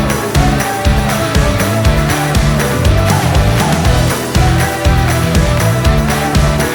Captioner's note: applause